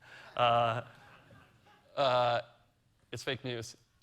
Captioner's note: audience laughing